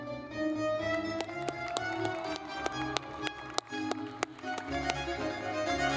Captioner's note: lively music; audience clapping